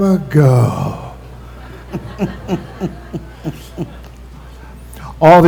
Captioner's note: laughter